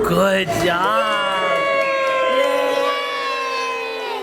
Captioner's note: cheering